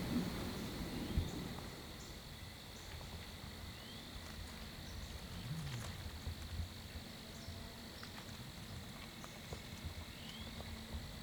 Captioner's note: natural noises